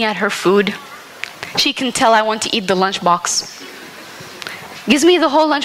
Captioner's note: laughter